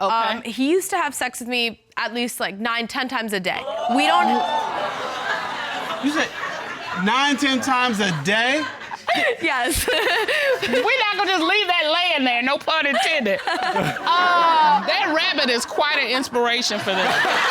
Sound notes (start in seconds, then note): 3.7 audience hooting, laughing; 9.6 chuckles; 12.9 chuckles